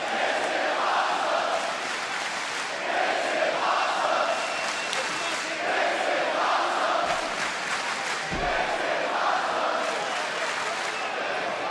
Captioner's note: crowd chanting